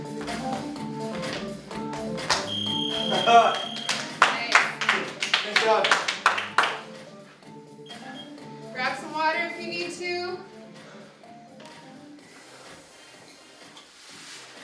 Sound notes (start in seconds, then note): 4.4 clapping